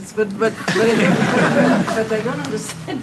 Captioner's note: laughter